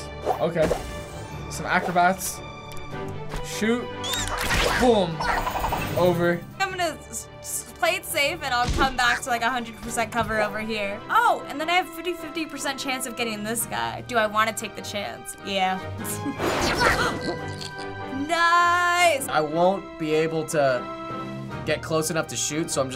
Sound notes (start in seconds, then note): 16.0 chuckles; 17.3 gasps